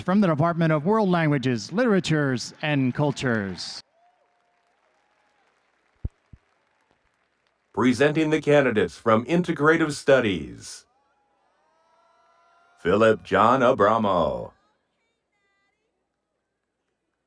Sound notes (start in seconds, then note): 4.1 audience cheering and applauding